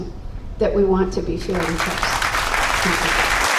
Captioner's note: applause